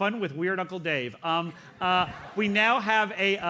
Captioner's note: audience laughs